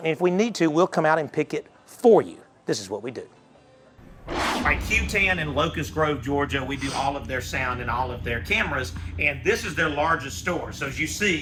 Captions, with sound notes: And if we need to we'll come out and pick it for you. (whooshing noise) At Q 10 and Locus Grove, Georgia, we do all of their sound and all of their cameras. And this is their largest store. So as you see,